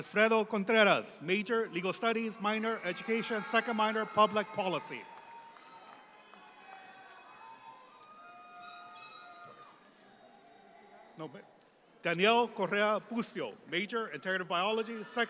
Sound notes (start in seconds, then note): 2.4 audience applauding